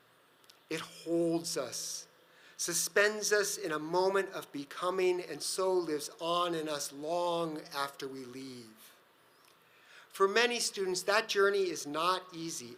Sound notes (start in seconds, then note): none